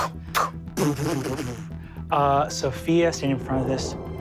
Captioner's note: imitates reverbarations